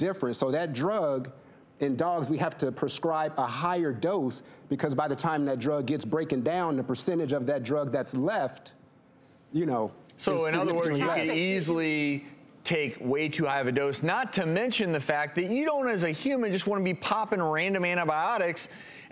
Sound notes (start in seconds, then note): none